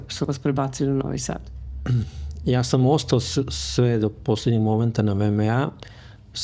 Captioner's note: coughs